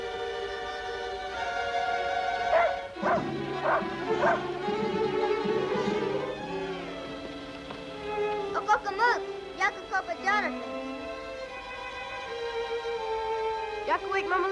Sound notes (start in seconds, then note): 8.5 speaking in foreign language